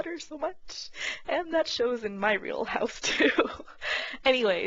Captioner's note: laughs